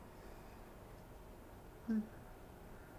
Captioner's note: yawns deeply